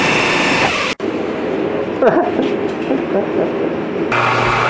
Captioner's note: grinding noise; scratching noise; drilling noise